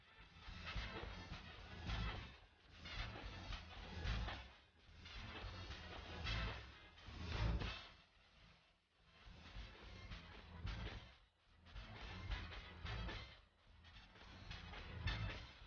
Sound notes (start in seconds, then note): none